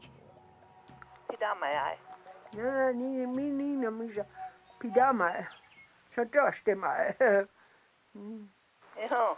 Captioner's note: woman speaking Dakota